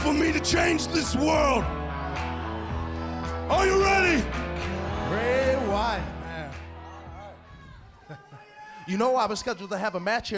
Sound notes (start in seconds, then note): 3.2 crowd cheering